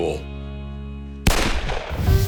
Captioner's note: gunshot